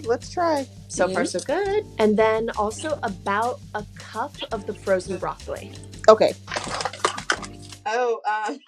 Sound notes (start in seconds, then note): 6.5 utensils clatter; 8.5 laughs